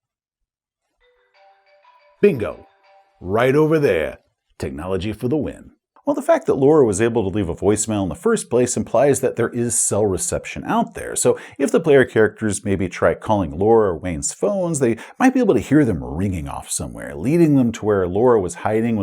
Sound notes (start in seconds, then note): 1.3 distant cell phone ringing